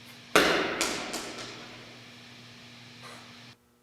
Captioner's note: ball thudding